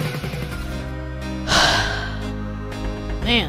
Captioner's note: sigh